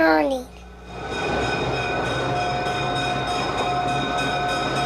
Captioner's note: crossing bells dinging